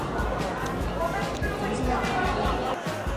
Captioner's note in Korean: 터덜터덜